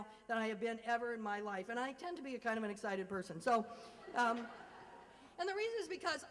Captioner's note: laugher